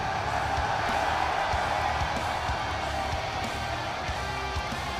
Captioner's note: cheers & applause